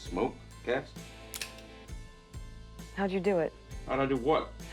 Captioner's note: trigger clicks